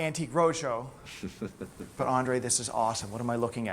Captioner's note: chuckles